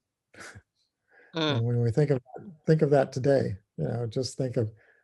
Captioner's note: laugh